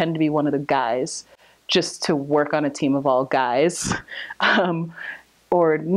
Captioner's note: laughs